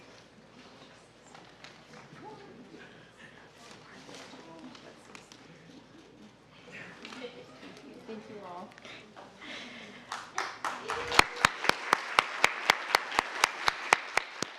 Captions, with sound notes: (people chattering softly) - Thank you all. (audience applauds)